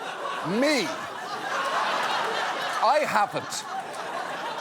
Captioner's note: audience laughs; scattered laughter